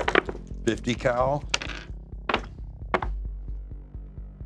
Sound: clattering

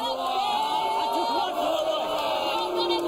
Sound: audience jeering

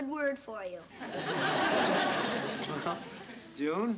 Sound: laughter

